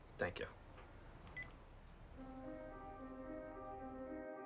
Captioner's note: beeps